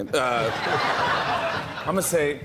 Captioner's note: laughter